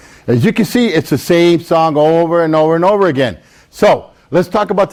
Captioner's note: none